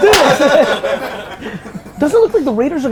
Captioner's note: group laughter